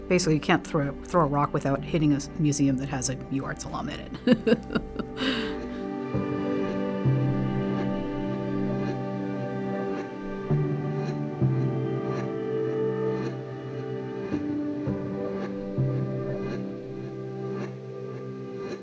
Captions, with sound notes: Basically, you can't throw a rock without hitting a museum that has a UArts alum in it. (laughs) (gentle music)